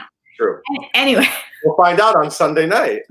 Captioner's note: laughs